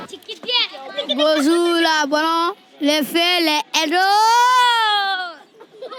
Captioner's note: children laughing, speaking french